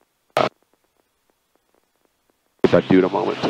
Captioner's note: radio static